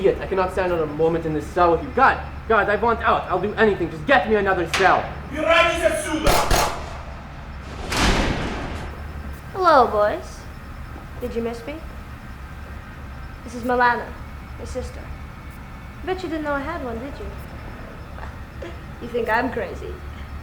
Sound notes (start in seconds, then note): 5.4 guard speaking Russian